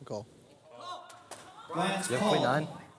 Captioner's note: crowd repeating 'call'